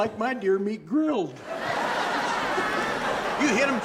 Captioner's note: audience laughing